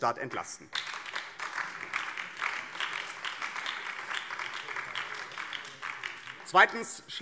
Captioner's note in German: Beifall BÜNDNIS 90/DIE GRÜNEN